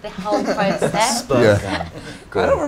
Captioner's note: laughing